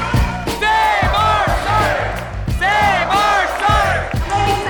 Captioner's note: crowd